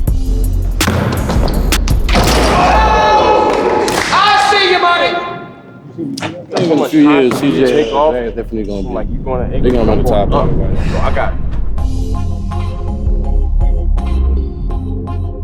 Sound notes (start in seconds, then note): 0.0 upbeat music; 2.3 fans exclaiming; 11.4 upbeat music